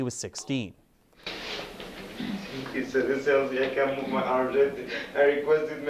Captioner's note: Khadr, sobbing